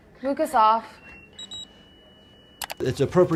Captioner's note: Lucas beeps